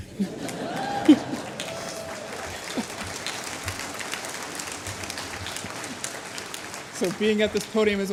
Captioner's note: applause